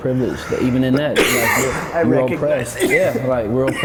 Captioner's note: coughs